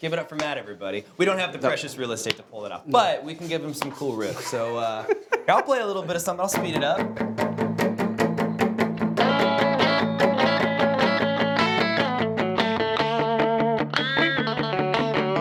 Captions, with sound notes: Give it up for Matt everybody. We don't have the precious real estate to pull it off but we can give him some cool riffs so (laughing) yeah I'll play a little bit of something. I'll speed it up. (upbeat music)